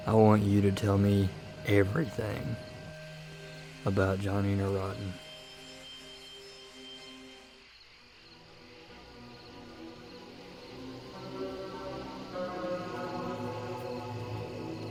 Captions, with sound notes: - I want you to tell me everything about Johnny Neurontin. (intense music) (insects chirp)